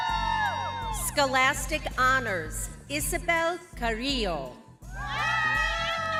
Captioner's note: crowd continues cheering